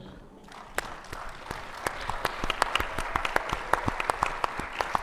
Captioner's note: attendees applauding